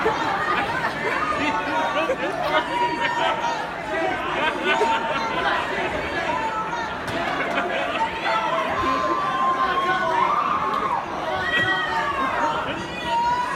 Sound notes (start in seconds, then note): 9.3 screaming